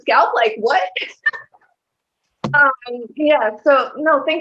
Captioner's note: laughter